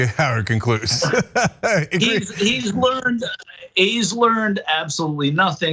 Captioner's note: laugh